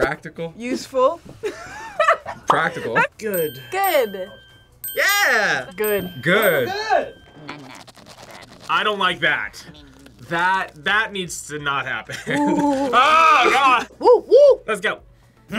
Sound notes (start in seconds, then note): 1.6 laughs